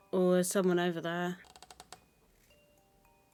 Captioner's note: door creaks open